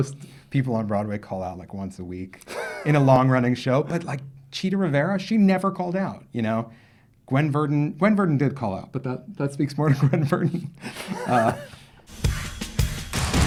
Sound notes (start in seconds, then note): 10.8 laughs; 12.0 energetic music